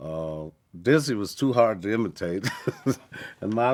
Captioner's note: laughs